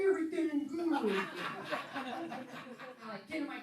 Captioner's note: laughing